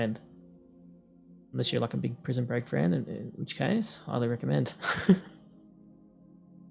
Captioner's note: haha